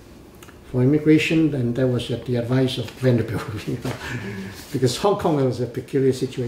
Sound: laughs

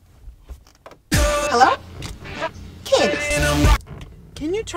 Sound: radio on

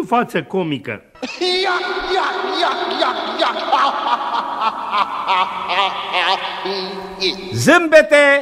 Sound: laugh

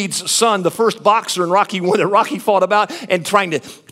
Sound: laughs

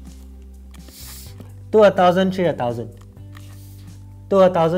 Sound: inflating sound

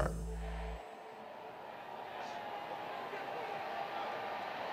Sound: spectators murmuring

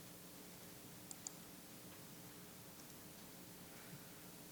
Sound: mouse clicking

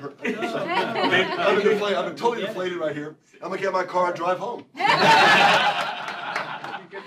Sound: laughter

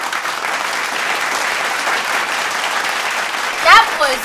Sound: applause

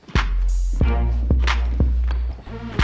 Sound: sneakers squeak

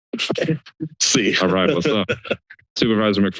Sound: laughter

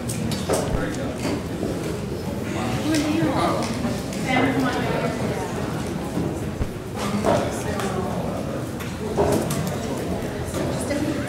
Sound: background Discussion

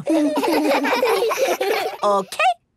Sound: laughs

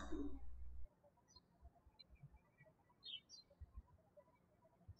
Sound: birds chirping

